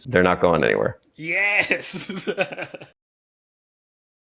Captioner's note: laughs